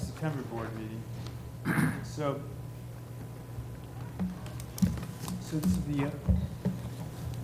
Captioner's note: cough